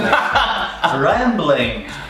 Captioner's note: laughing